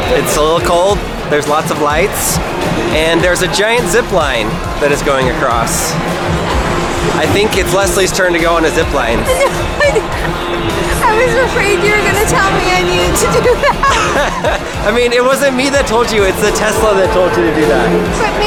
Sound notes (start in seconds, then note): 9.5 laughs